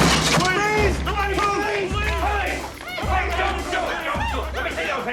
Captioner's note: officers yelling